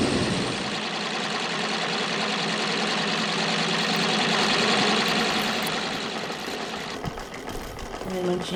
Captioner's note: noise of sewing machine